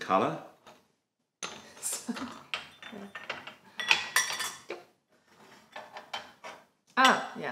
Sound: laughter

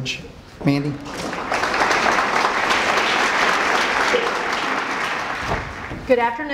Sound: applause

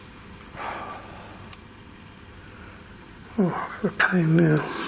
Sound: sighs

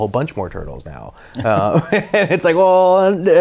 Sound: both laughing

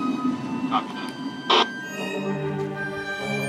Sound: man On Radio

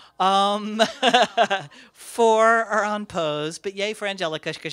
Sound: laughs

